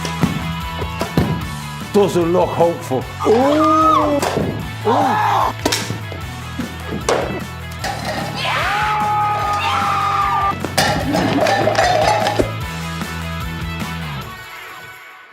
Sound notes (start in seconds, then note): 3.2 screaming; 8.3 screaming